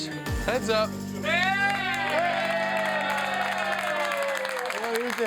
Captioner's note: crowd cheers